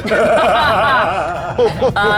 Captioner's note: laugh; chuckles